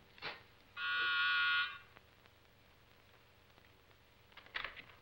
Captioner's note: doorbell buzzes